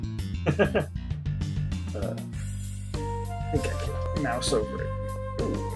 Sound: chuckles

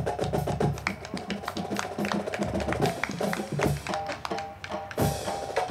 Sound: band music; crowd clapping

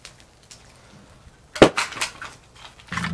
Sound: box clangs

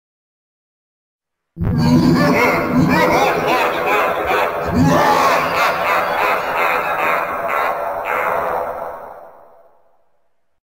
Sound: evil laugh

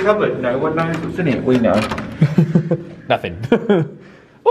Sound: laughs

